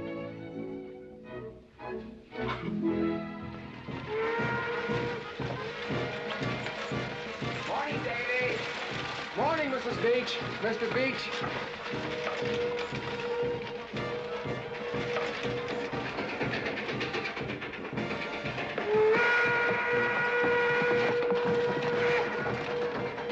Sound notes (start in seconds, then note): 4.0 train whistle blowing; 5.1 marching band playing; 11.7 marching band playing; 15.8 train rumbling; 18.7 train whistle blaring